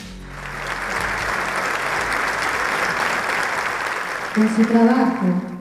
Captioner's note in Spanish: Aplausos